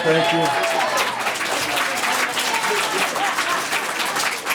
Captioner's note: audience clapping